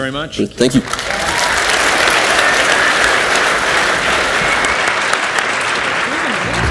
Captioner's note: audience cheers and applauds